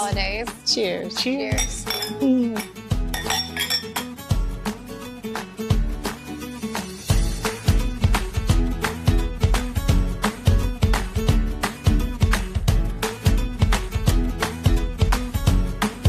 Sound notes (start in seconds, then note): 3.0 glasses clinking